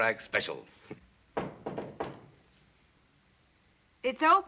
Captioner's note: knocking at door